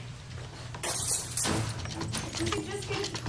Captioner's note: more glass breaking